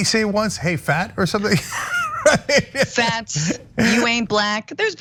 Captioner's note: laugh